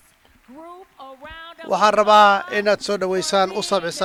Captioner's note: cheers and applause